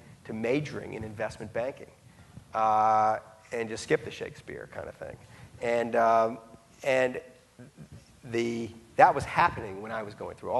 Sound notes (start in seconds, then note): none